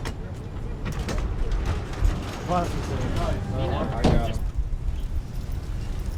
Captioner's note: door rattles; people chattering; shuffling footsteps